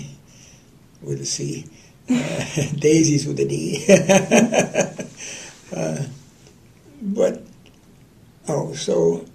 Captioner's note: laughter